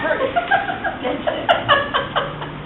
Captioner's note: laughs